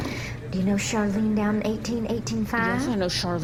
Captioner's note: through gritted teeth